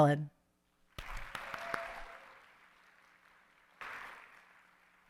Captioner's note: audience applauding